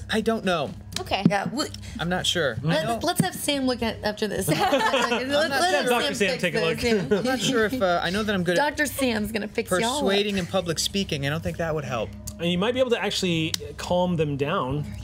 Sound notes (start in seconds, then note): 4.4 laughter